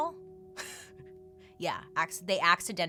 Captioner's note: chuckles